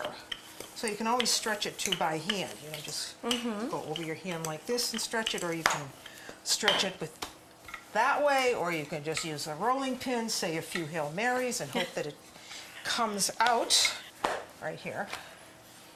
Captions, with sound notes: So, you can always stretch it too by hand. You can just go over your hand like this and stretch it or you can stretch it-- with that way or you can just use a rolling pin. Say, a few Hail Mary's. [LAUGHTER]. >> And hope that it comes out right here.